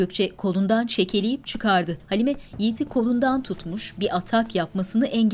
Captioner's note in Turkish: Ayak sesleri